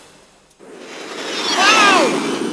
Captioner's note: plane sound